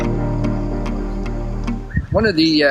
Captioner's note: birds chirping